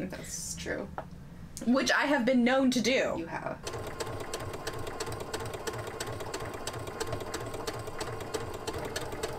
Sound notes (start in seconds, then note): 3.6 sewing machine running